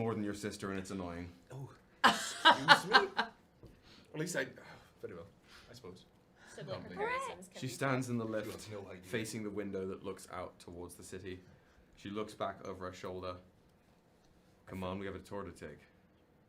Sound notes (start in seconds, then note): 2.0 laughing